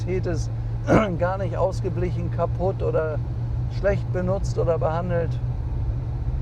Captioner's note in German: räuspern